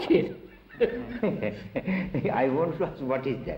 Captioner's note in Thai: หัวเราะ